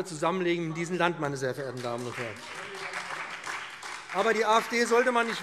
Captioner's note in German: Beifall BÜNDNIS 90/DIE GRÜNEN, CDU, vereinzelt SPD und DIE LINKE